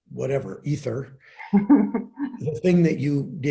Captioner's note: laughing